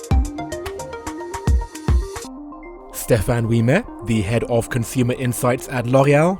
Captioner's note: voiceover